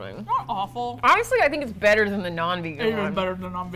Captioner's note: mouth full